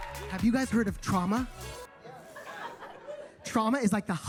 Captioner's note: attendees laughing